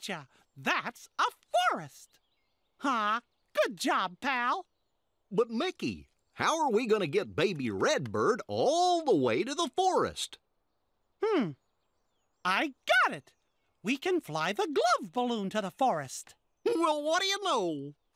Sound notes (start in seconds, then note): none